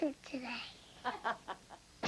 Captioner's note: mom laughs